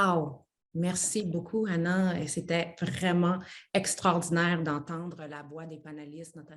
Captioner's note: speaks French